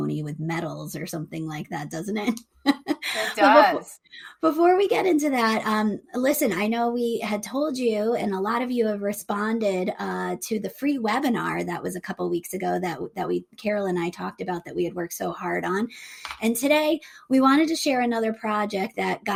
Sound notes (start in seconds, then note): 2.6 chuckles